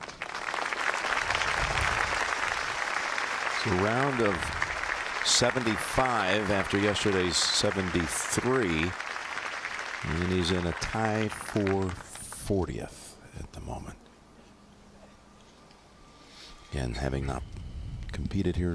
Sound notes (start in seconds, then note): 8.2 applause